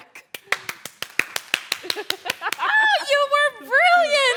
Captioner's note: applause